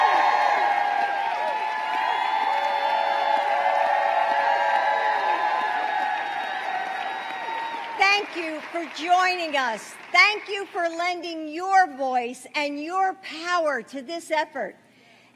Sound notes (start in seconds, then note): 4.4 applause